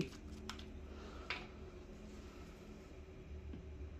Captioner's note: opening ink bottle cap